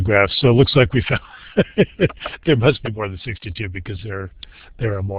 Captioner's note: chuckles